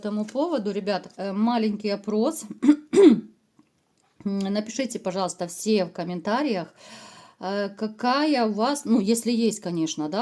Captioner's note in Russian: откашливается